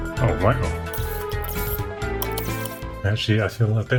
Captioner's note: screwdriver whirring